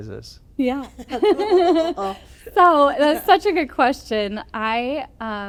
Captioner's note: laughter